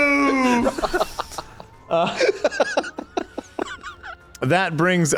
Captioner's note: chuckles